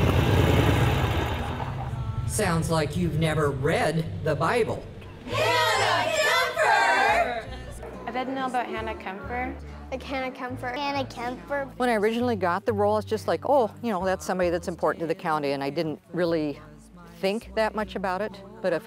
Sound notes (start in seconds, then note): 5.2 actors yelling